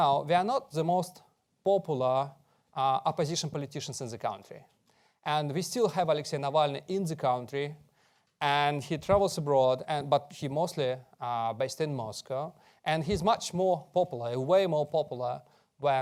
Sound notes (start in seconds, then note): none